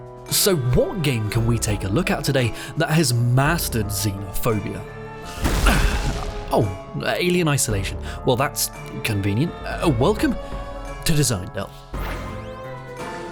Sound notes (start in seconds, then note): 5.2 slam